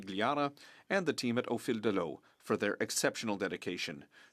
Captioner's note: speaking French